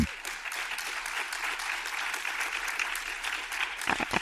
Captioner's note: audience applauds